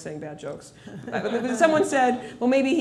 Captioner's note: laughter